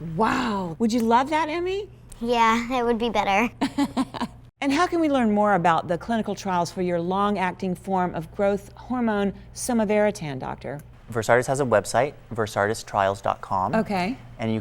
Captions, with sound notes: Wow! Would you love that, Emmy? Yeah. It would be better. (laughter). And how can we learn more about the clinical trials for your long acting form of growth hormone, Somavaratan, Doctor? Versartis has a website, VersartisTrials.com Okay.